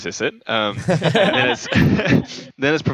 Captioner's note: laughter